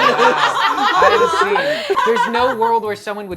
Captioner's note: laughter